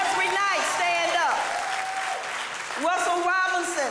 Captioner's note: audience applauding